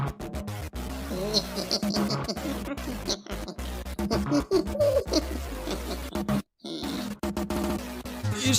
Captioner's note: evil giggle